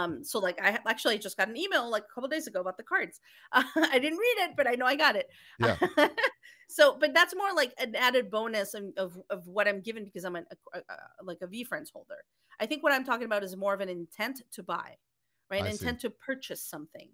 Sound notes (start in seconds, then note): 5.6 laughing